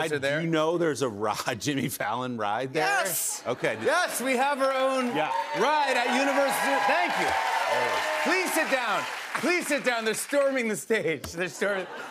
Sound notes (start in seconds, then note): 7.2 cheers and applause